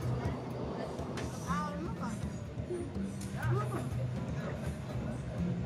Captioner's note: speaking in foreign